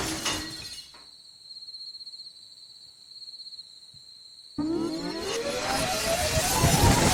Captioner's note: crickets…